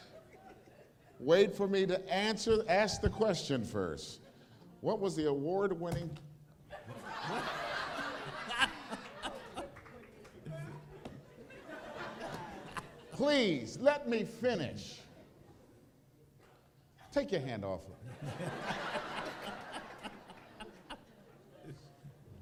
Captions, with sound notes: Wait for me to ask the question first. What was the award winning [table slap] [laughter] Please let me finish. Take your hand off of it. [laughter]